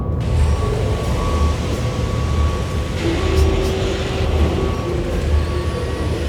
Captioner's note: construction commotion